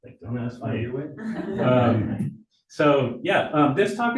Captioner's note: audience laughing